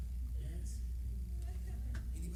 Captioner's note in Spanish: hablar en voz baja